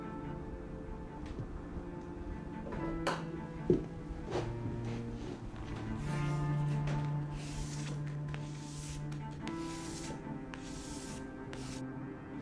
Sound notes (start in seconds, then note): 7.2 knife whooshing; 10.1 tense music continues